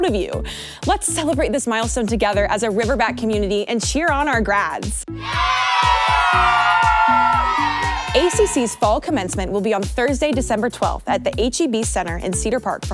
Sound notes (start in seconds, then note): 5.1 group cheering